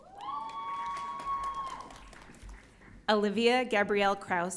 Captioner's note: audience cheering